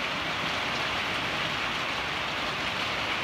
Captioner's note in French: La pluie bat son plein